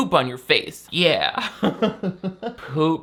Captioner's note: laughs